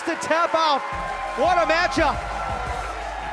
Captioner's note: bell